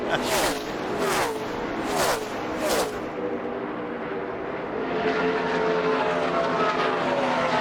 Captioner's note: laughter